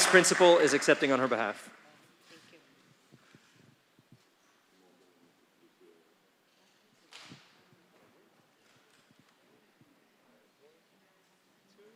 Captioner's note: applause